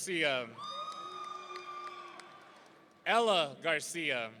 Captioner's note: audience cheering